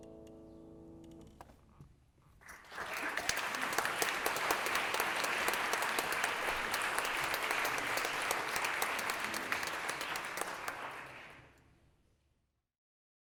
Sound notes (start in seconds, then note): 2.4 applause